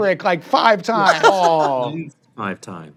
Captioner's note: laughs